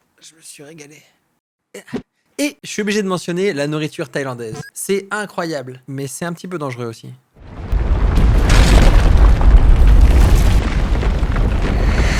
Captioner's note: inhales